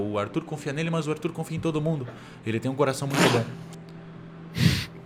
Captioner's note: laughs